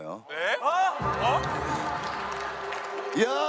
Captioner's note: laughter from the audience